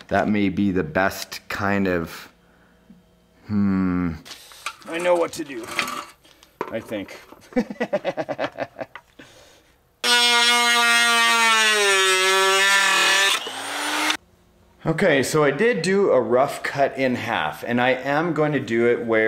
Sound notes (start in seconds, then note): 7.5 laughs; 10.0 saw buzzes